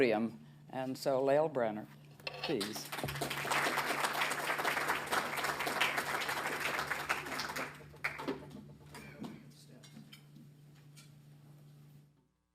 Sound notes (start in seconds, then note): 7.7 applause